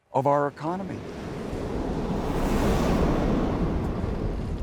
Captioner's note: waves roaring